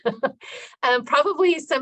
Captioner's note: laughing